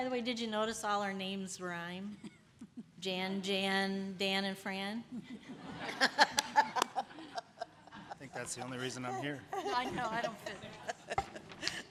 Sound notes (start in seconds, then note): 5.2 chuckles